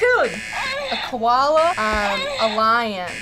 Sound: buzzer moans

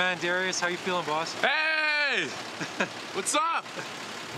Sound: laughs

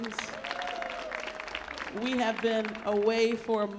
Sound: audience cheers

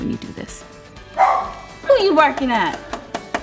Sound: Minnie barks

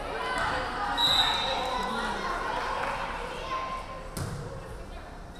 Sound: referee whistling

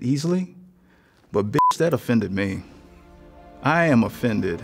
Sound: beep

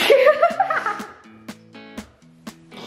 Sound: laughs

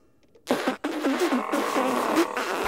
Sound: spitting

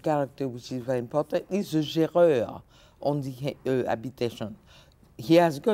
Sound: speaking French

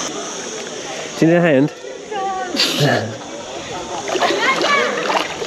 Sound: laughter

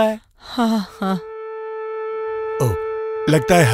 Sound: Conch blows

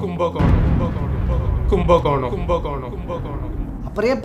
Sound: voice echoing with thunder and waves

